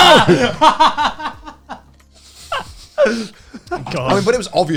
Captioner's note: laughing